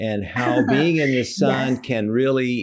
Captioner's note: laughing